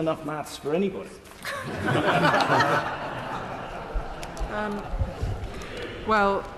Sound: members laugh

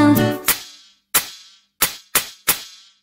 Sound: clap

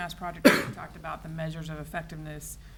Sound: attendee coughs

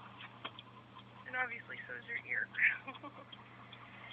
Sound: laughs

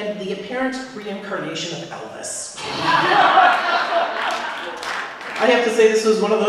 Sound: laughter

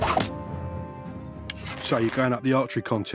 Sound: arrows hitting board

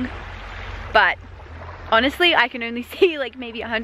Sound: laughs

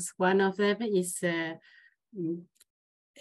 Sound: Spanish language

